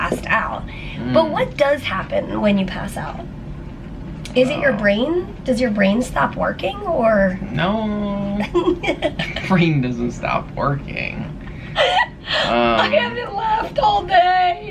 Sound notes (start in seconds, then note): 11.8 laughter